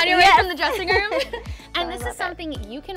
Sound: laughs

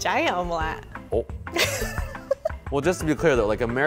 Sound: laughs

